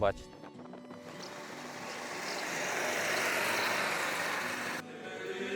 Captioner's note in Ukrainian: віє вітер